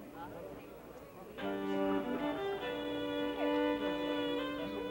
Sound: people murmuring; bright fiddle music

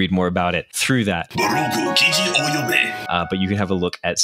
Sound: speaking japanese

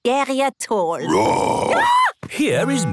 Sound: roar, scream

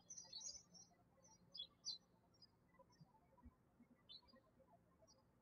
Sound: birds chirping

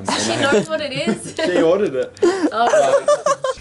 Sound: laughter

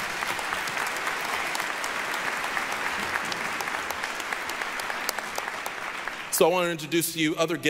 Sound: applause

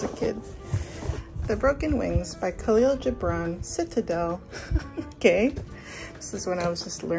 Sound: laughs

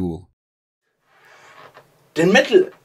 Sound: inhales

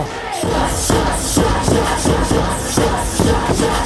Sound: chanting

